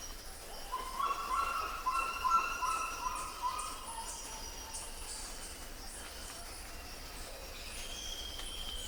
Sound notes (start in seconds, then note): 0.7 bird squawking